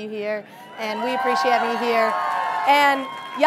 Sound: audience cheering

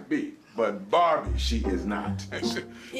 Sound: chuckles

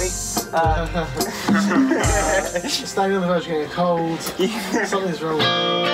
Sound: laughter

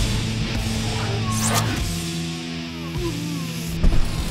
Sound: metal swoosh; air deflating

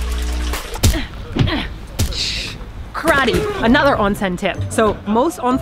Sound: karate fighting sound effects

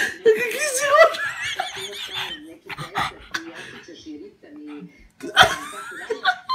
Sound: laugh; laugh

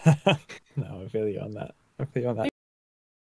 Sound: laughs

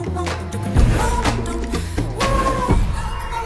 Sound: whooshing

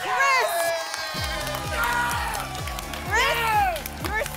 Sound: applause and cheering

